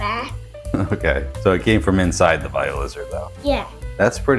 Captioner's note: chuckles